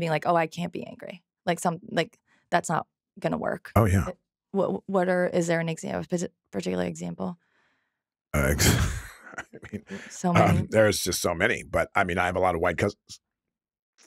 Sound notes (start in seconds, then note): 8.4 laughs